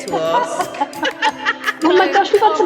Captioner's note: laughter